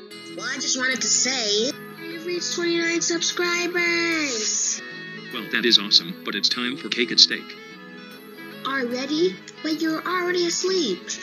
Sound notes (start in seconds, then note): none